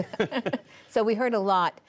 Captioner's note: laughter